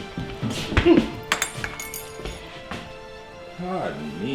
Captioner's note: badge clinking